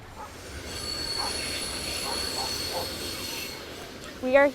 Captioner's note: train rumbling over tracks